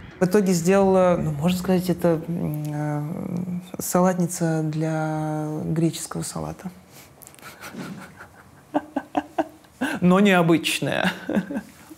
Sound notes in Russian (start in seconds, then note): 7.4 смеётся